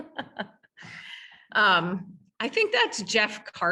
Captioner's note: laughing